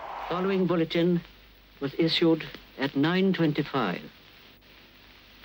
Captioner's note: radio Announcer